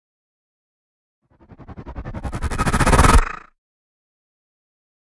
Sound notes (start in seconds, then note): 0.0 sound of stutter